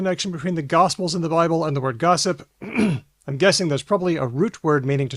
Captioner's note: clears throat